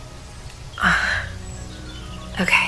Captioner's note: frustrated sigh